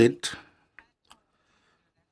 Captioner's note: speaking French